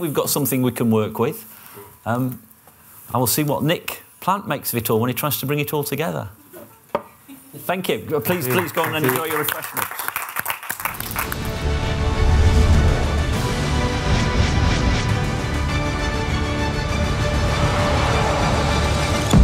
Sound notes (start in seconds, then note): 8.2 applause